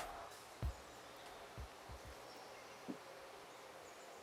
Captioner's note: birds chirping